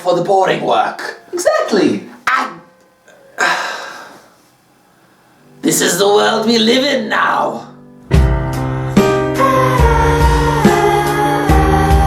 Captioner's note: sigh